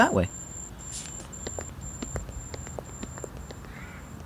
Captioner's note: scanner beeping